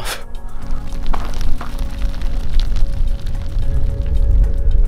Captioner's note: ground crunching